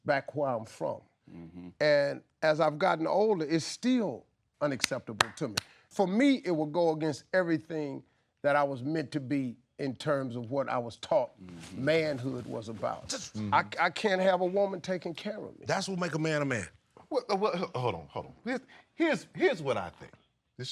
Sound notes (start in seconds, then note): 5.2 claps